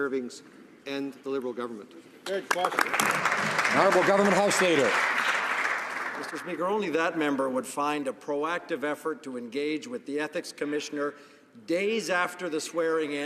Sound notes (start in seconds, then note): 6.4 some Applause